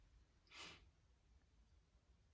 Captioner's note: sniffs